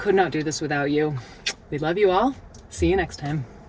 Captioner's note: lips smacking